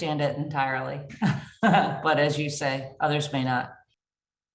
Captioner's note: chuckling